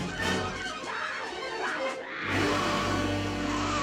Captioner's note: snarling, roaring